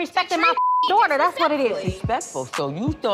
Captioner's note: beep